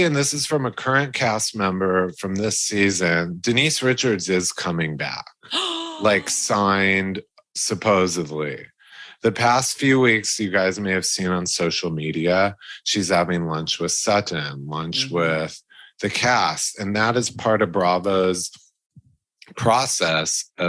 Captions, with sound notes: and this is from a current cast member from this season, Denise Richards is coming back. (gasping) Like, signed supposedly. The past few weeks, you guys may have seen on social media, she's having lunch with Sutton, lunch with the cast, and that is part of Bravo's process